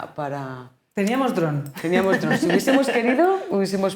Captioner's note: laughing